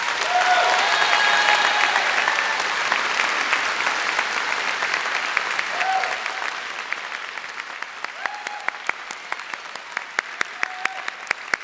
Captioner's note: applause